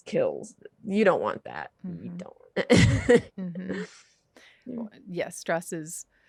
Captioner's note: laughs